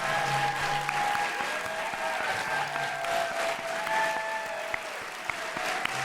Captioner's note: audience applauds and cheers